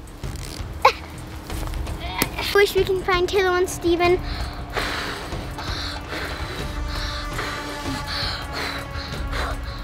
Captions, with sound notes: I wish we can find Taylor and Steven. (blowing noises)